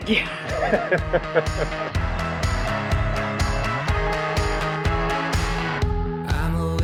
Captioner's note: laughing